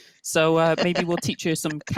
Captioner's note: chuckling